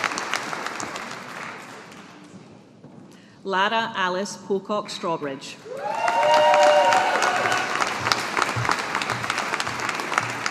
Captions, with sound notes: Lara Alice Pocock Strawbridge. (AUDIENCE APPLAUDING)